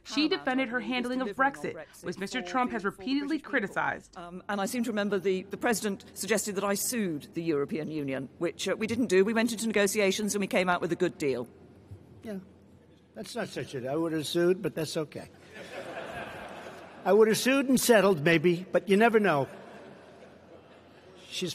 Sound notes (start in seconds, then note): 15.4 laughter